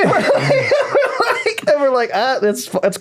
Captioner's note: laughing